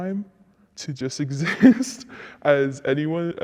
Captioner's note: chuckles